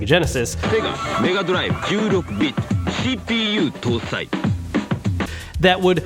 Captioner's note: advertiser speaking in Japanese